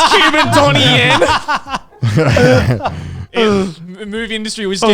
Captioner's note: everyone laughs